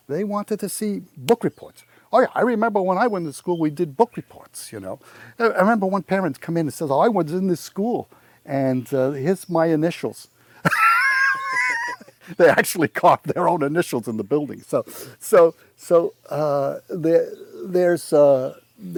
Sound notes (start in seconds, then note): 10.6 laughs